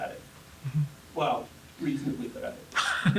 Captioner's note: laugh